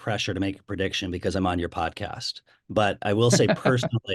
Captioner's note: laughs